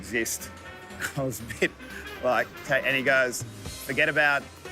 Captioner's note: laughs